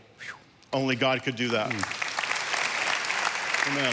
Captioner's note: congregation applauding